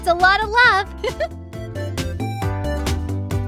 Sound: giggles; upbeat music

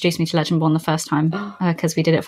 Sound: gasps

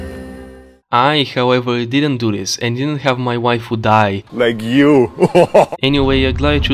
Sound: laughs

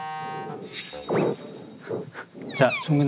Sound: snort

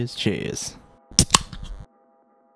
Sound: tasty beverage opening

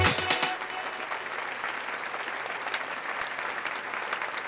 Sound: audience applauding

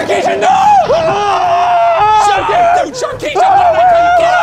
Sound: muffled screaming

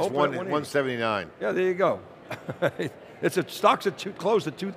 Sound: laughs

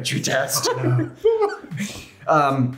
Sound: all laughing

